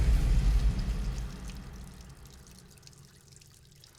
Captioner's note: water trickling